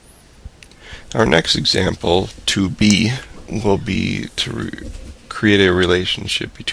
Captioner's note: voiceover